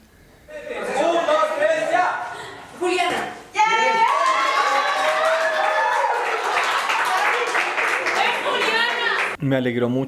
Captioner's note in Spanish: Gritos, risas…